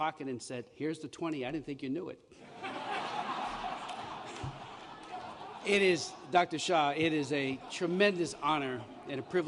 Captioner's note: laughter